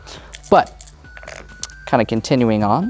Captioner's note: dice rattling, then rolling